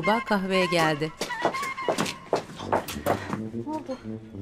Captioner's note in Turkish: Ayak sesi